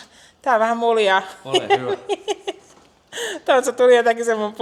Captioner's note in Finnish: naurua